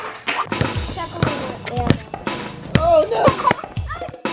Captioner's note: boys chattering